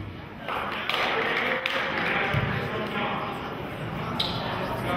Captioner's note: applauding